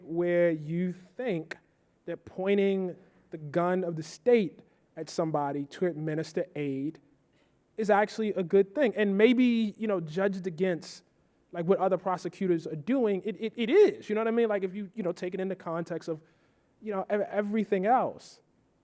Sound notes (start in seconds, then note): none